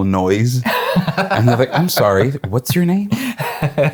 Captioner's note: laughing